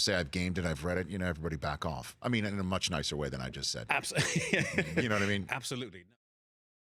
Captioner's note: laughs